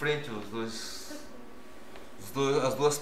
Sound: laughs

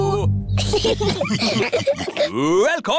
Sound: laughter

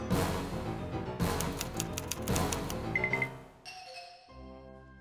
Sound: typewriter clicks

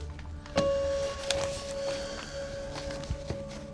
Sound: sighs

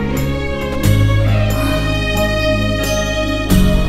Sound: Poonam exhales

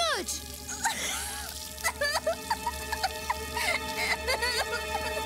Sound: alice sobs

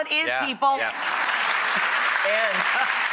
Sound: audience applauding

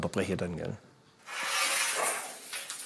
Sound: rattling

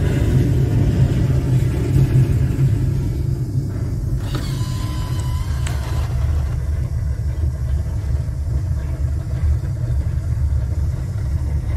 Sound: laser blast and explosion; rocks falling

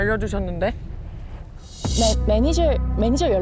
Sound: heart sinking sound effect

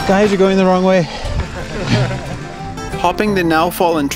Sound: laughs

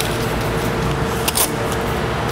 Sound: tearing paper sound

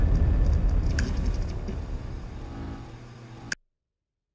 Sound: screen buzzing

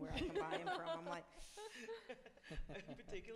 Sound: laughs; inhales

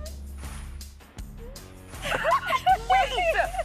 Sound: both laugh

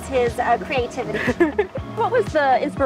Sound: chuckles

